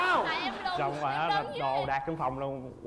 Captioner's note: laugh